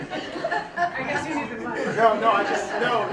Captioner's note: laughter; voiceover